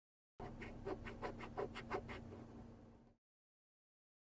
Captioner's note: eraser scratching